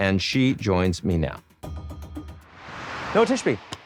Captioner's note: graphic whooshes